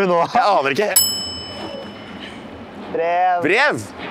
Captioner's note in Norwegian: Ding